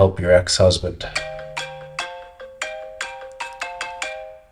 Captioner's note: device jingle